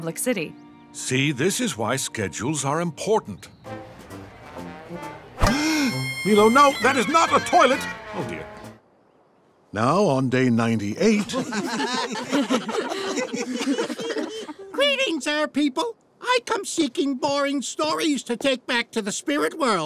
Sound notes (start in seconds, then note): 5.4 gasps; 11.0 laughing